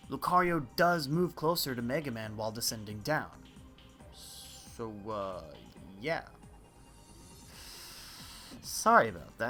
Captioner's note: teeth breathing